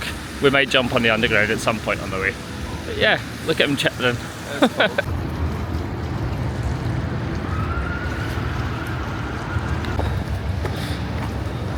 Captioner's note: laughs